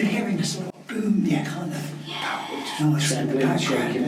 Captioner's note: all chattering